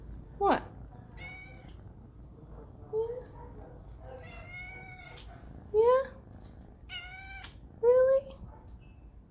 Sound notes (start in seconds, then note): 1.1 maow